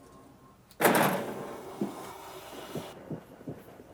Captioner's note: wood clanks